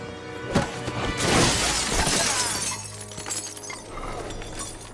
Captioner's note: dramatic music; elbow thudding; glass shattering; Tory groaning